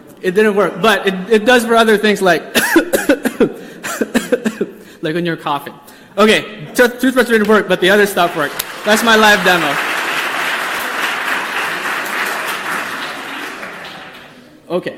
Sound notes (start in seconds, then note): 2.5 coughing; 10.9 audience applause